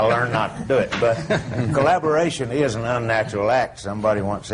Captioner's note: laughter